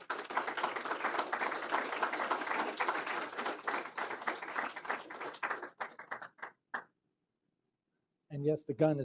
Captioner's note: applause